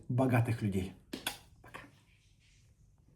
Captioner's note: lips smack